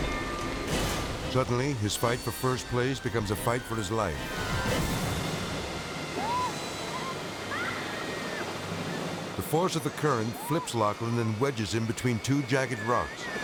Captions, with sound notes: Suddenly, his fight for first place becomes a fight for his life. (spectator screaming) The force of the current flips Lachlan and wedges him between two jagged rocks.